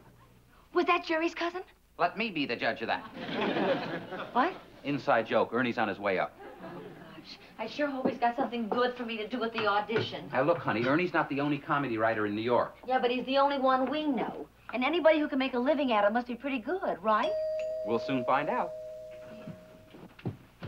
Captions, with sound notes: Was that Jerry's cousin? Let me be the judge of that. What? Inside joke, Ernie's on his way up. Oh, gosh. I sure hope he's got something good for me to do at the audition. Now look honey, Ernie's not the only comedy writer in New York. Yeah, but he's the only one we know. And anybody who can make a living at it must be pretty good, right? -(doorbell rings) -We'll soon find out.